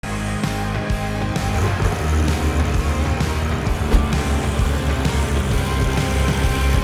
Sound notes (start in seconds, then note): 0.3 upbeat music; 1.1 engine revving